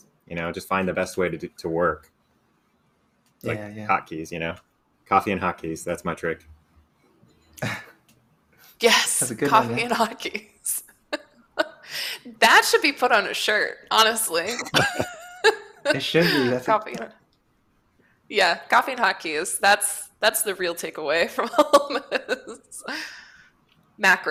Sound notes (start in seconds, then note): 7.6 chuckling; 14.4 laughter